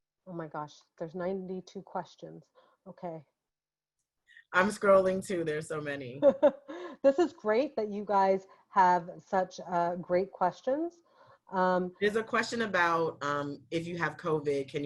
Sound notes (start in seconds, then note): 6.2 giggling